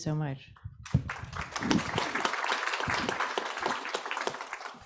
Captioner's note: audience applauds